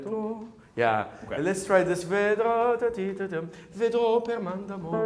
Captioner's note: hums; piano and singing in foreign language